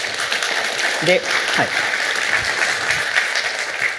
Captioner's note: applause